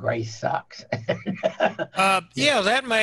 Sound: chuckles

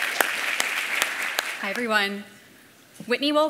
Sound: applause

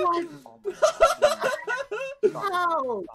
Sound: laughs

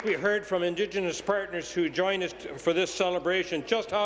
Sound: applause

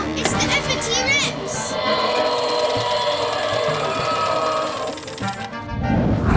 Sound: roar

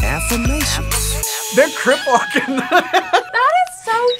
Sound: laughs

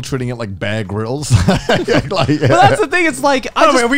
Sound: laughing

